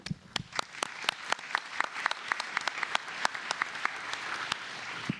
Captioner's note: applause